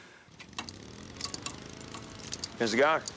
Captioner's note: tools clattering